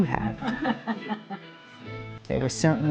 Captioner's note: laughing